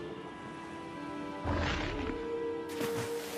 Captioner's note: air whooshing; water splashing